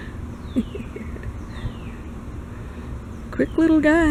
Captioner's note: chuckle